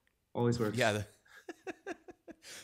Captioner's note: laughs